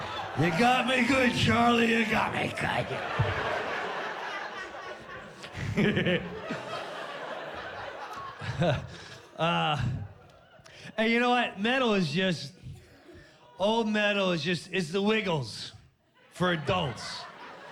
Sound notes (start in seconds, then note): 4.7 chuckles